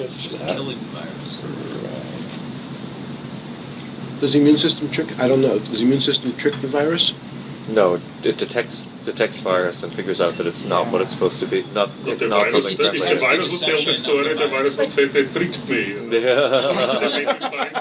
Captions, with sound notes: -Right. -Does the immune system trick? I don't know. Does the immune system trick the virus? No, it detects, detects virus and figures out that it's not what it's supposed to -be. Not, it's not something- -If the virus would tell the story, the -virus would say, "They tricked me." -[laughing] Yeah. -Everything is fine. -Everything was fine.